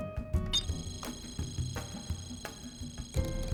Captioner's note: device beeping